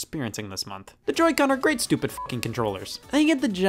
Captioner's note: beep